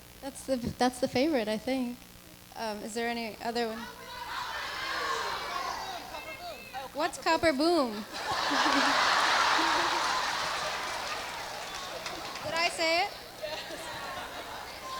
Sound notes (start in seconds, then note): 7.7 audience laughs; 8.1 audience applauding